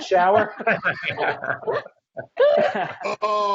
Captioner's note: laughing